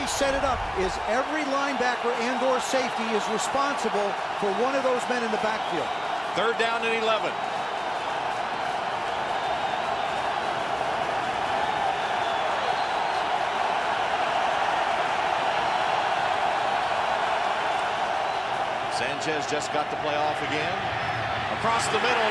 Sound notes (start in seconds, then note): 7.9 cheering